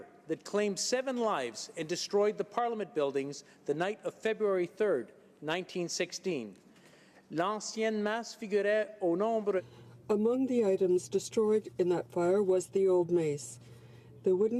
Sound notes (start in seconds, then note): 10.8 speaking French